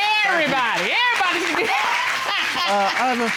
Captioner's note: chuckles